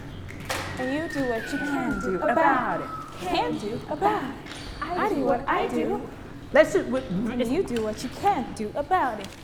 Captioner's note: all chanting softly